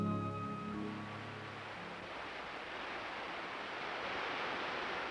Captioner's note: water rushing